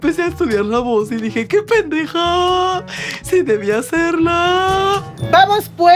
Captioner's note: in a perfect pulga ampona voice